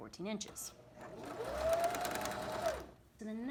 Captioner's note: sewing machine hums